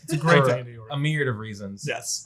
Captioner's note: laughs